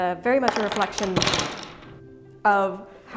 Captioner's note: tools clatter